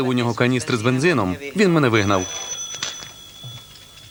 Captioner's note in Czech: zvoní telefon